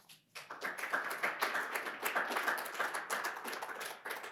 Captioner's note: audience claps